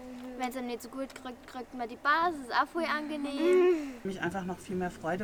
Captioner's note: laughs